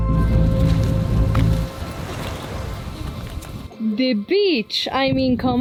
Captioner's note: shoes tapping